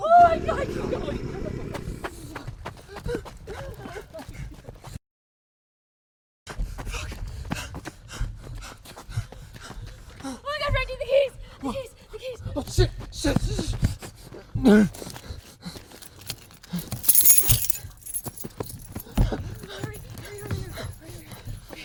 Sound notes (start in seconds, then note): 0.1 gruñido de hombre lobo; 4.2 jadeando; 8.0 jadeando; 14.3 gruñendo y jadeando; 15.9 sonido de llaves